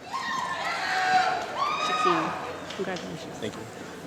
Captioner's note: applause